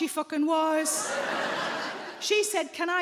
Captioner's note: audience laughing